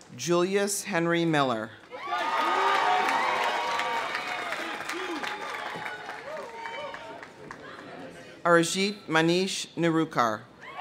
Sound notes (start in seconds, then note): 1.9 audience cheering; 3.4 audience applauding